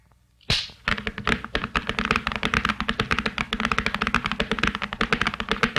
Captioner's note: whip snaps; horse hooves clomping